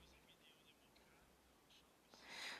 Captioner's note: speaking French